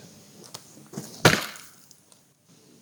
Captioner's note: chop